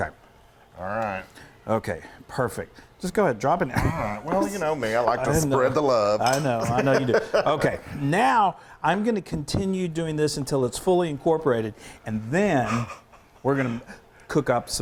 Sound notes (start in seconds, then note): 12.6 quiet laughter